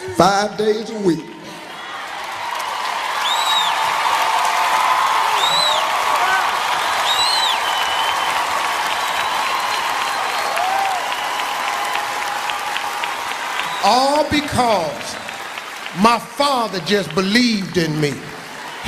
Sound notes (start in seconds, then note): 1.4 applauding; 3.6 cheering